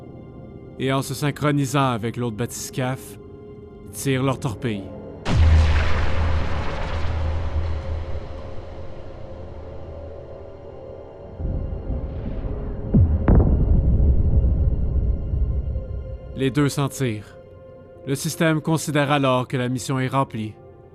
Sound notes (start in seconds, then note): 5.6 wet torpedo sounds; 11.4 explosion